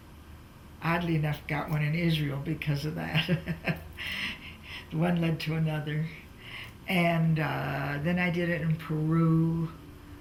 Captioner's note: laughs